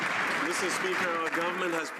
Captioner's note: some Applause